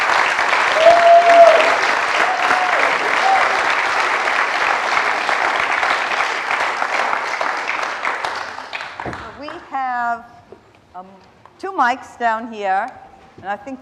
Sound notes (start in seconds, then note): 0.0 applause